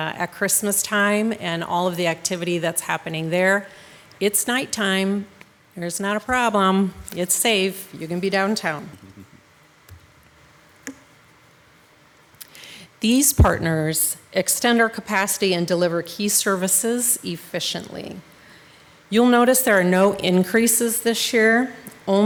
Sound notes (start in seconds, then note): 9.0 laughing